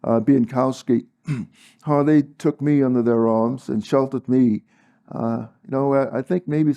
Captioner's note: cough